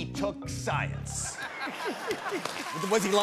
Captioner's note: applause